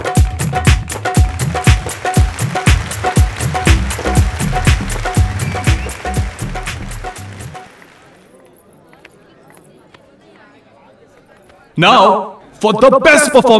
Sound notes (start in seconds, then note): 0.1 Everybody clapping